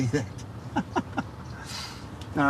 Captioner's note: laughing